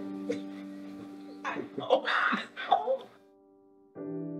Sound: rejoicing

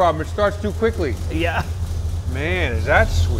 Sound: laughs

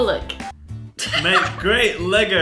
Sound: laughing

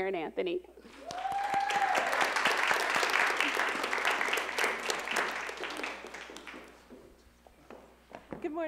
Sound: cheering and Applause

